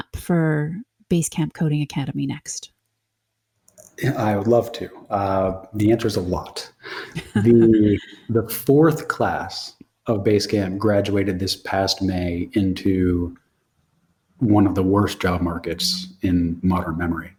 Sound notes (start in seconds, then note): 6.8 laughs